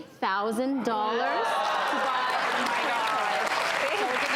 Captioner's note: audience applause drowns out sound